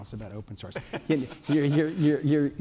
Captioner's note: laughter